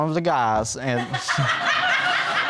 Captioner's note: audience laughing